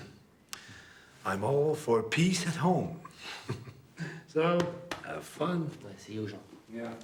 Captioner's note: chuckles